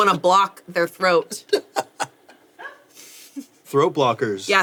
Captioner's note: laughs